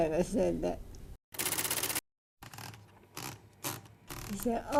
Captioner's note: typewriter clacking